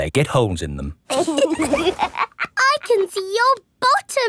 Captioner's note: laughs